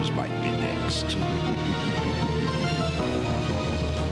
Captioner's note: laughing